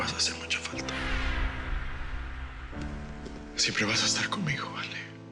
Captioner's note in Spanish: Susurra lloroso